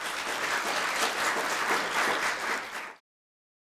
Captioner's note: audience clapping